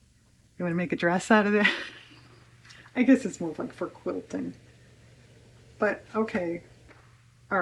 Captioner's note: laughs